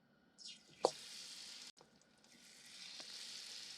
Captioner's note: that sizzling sound